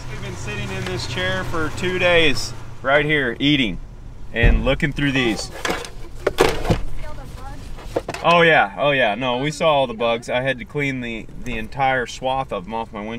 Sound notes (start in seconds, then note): none